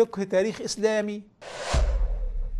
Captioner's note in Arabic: مُؤَثِّرَات صَوْتِيَّة